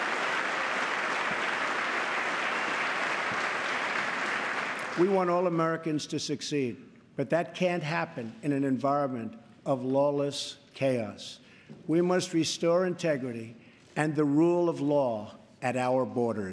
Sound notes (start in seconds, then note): 3.0 applause